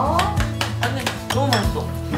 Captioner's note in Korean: 짝짝짝